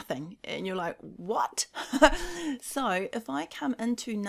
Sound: chuckles

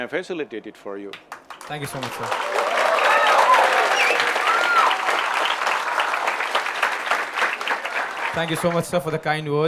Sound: cheers/Applause

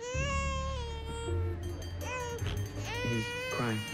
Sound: continues crying

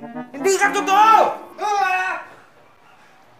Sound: screams

